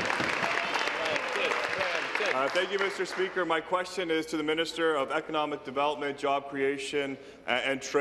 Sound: applause

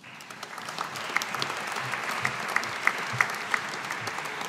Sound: audience applauding

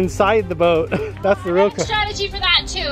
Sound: laughs

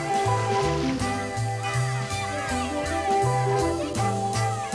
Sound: splashing; children shouting

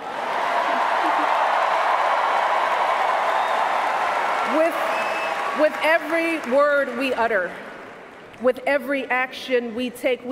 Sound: cheers, applause

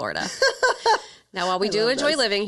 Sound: laughs

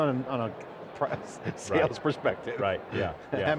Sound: laughing

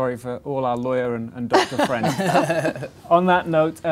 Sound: laughing

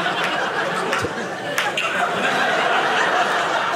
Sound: audience laughing

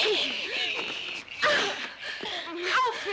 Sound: women groaning

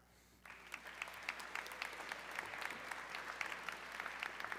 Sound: audience clapping

